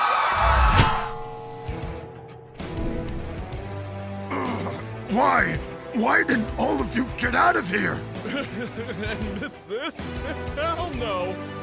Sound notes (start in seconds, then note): 4.3 grunts